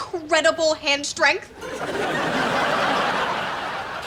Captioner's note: laughs